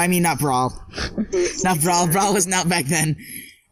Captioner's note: laughing